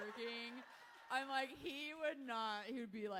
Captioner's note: audience laughing